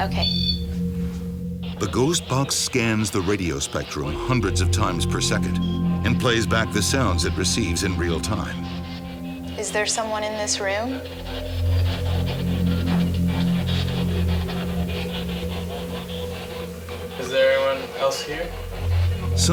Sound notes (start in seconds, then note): 1.7 voiceover; 19.4 voiceover